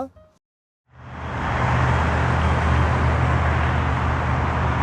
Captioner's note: traffic whooshing